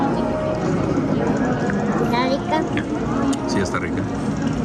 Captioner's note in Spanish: voces